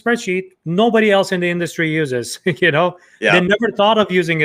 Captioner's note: chuckles